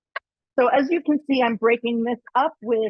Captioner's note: none